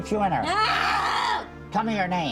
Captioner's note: screaming